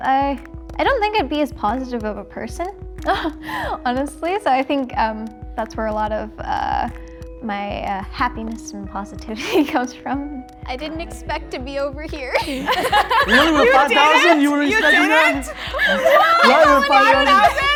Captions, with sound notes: I don't think I'd be as positive of a person, honestly. So, I think, that's where a lot of my happiness and positivity comes from. I didn't expect to be over here. (group laughing) - Literally, with five thousand. - You didn't? You didn't? (group laughing and yelling)